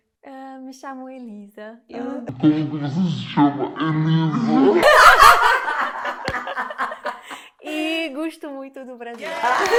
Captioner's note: laughs